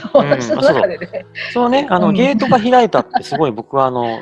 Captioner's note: laugh